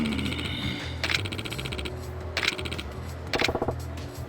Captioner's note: snorts